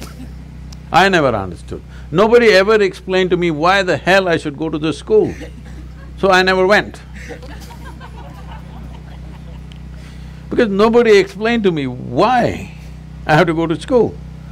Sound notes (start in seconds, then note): 0.0 laughter; 7.0 laughter